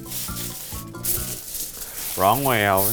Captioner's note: foil crinkling